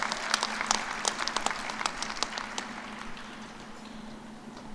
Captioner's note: cheers and applause